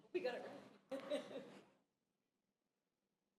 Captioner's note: chuckles